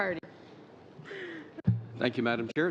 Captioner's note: laughter